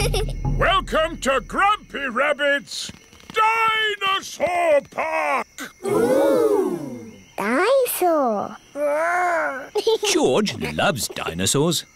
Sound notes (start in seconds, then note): 9.7 giggles